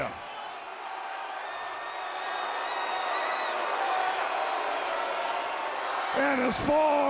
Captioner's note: crowd cheering